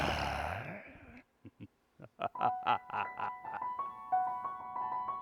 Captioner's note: evil chuckle